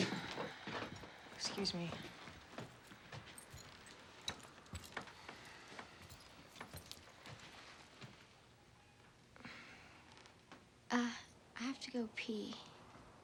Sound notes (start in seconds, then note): none